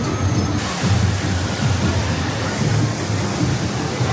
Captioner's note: water rushes